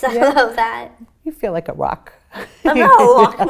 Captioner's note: laughing